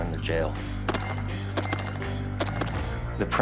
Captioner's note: gunfire